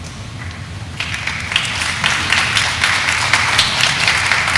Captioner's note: audience applauding